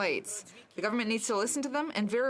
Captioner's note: speaking French